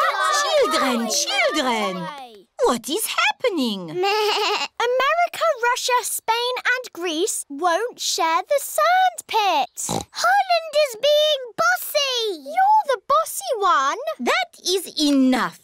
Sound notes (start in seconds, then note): 3.6 bleats; 9.8 oinks